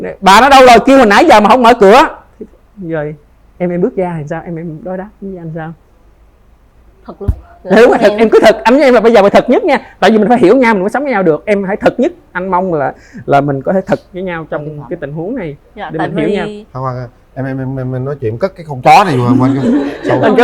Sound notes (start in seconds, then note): 7.8 laughter